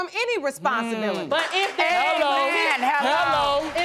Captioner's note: audience applauding